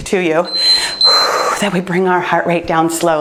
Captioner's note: timer beeps; exhales